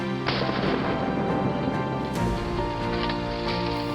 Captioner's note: gun firing